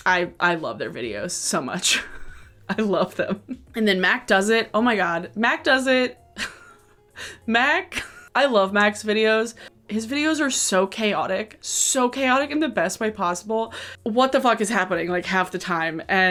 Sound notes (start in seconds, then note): 1.9 laughs; 7.5 laughs